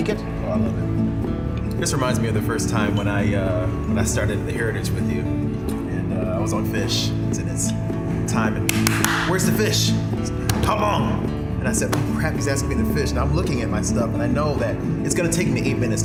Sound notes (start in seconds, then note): 8.6 clapping